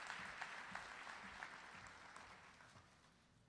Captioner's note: applause